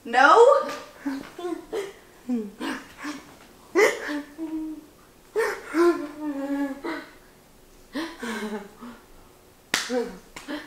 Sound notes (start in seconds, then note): 3.7 laughing